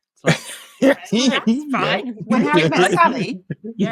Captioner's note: laughing